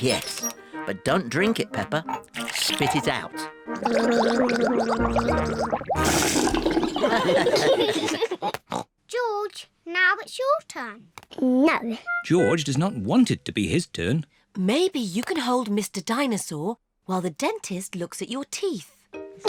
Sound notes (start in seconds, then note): 3.7 gargles; 6.8 all laugh